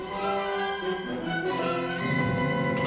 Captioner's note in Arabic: طلقة نارية